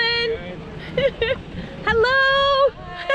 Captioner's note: laughter